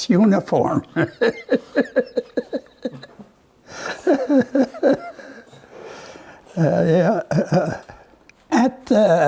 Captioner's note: laughs